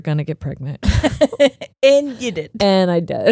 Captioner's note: chuckling